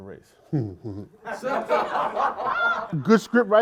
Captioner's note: laughter